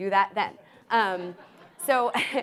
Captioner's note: audience laughs